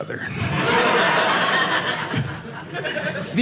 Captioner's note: audience laughing